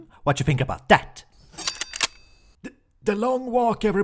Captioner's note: gun clicks and machete schwings